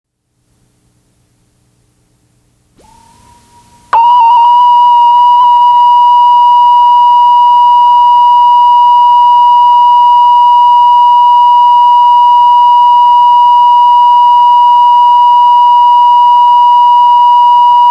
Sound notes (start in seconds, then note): 4.4 beeping